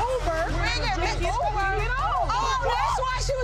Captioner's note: people speaking indistinct